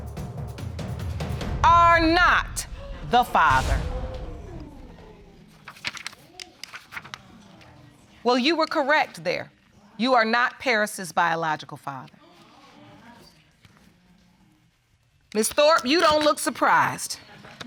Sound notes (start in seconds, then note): 2.7 audience exclaiming; 12.6 audience speaking indistinctly